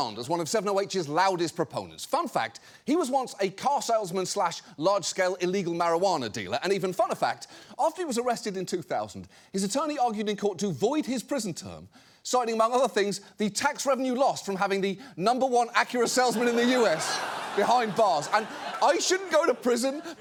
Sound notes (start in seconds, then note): 16.0 audience laughs